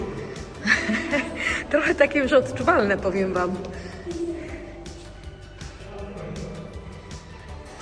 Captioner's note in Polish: śmiech